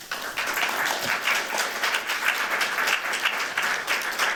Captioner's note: applause